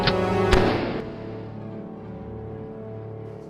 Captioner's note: gun bangs; mysterious music